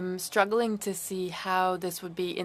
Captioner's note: speaking French